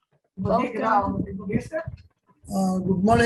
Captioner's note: people chattering